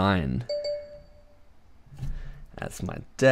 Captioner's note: notification chiming